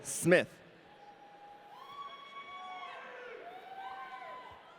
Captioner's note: audience cheering